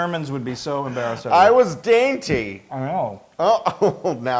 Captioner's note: laugh; laugh